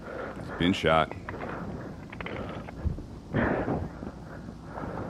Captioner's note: panting after getting shot